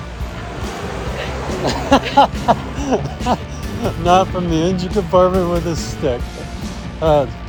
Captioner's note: laughs!